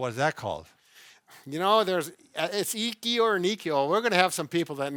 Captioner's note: foreign language